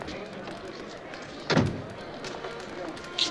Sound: door closing

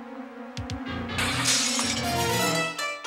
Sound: cutlery crashing; ominous music

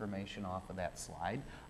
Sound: none

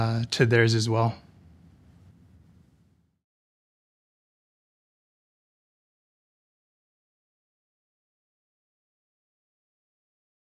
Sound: silence

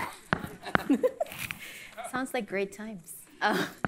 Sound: laughs

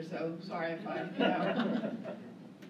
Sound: laughter

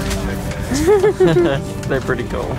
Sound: chuckles

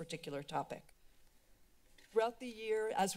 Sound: pause

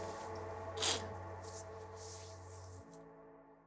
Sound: sniffs

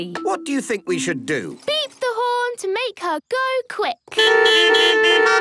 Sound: beeping

